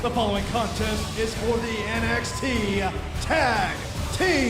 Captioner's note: bell ringing